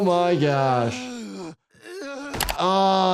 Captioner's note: Stewie groaning